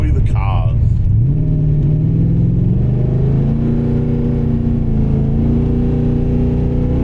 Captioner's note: engine revving